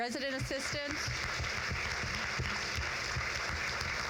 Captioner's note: crowd claps